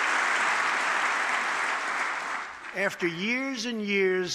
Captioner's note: applause